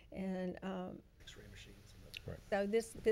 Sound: speaking faintly

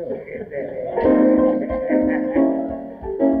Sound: laughs; upbeat band music

